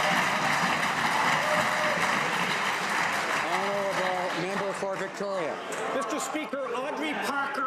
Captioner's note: some Applause